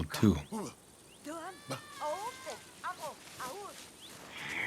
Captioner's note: foreign spoken audio